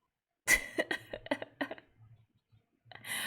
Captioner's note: laughs